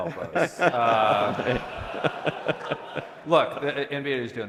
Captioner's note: laughter